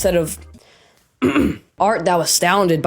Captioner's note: ahem